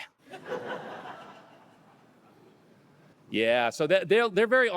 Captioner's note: audience laughing